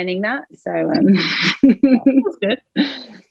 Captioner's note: laughs